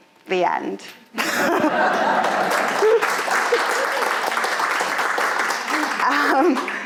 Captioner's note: audience laughing; audience applauding